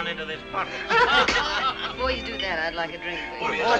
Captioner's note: all laughing